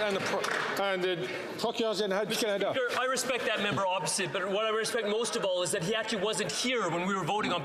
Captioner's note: some Applause